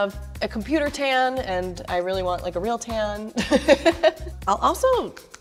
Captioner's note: laughing